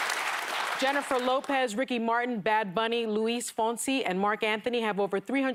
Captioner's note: applause